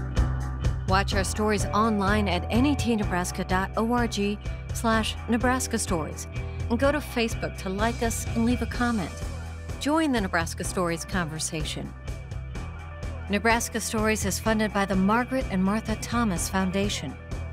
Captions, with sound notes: (upbeat music) [Voiceover] Watch our stories online at netNebraska.org/NebraskaStories. And go to Facebook to like us and leave a comment. Join the Nebraska Stories conversation. Nebraska Stories is funded by the